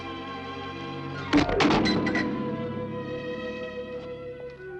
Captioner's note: object thuds